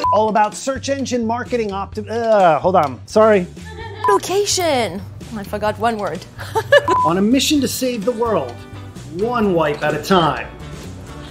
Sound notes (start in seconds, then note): 6.3 laughing; 6.8 short beep